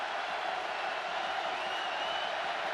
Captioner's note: crowd cheering